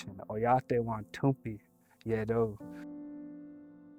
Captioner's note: speaking Dakota; gentle music